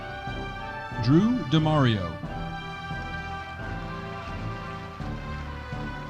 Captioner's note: audience applauding